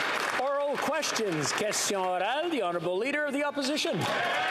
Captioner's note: some Applause